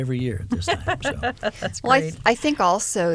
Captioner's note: laughter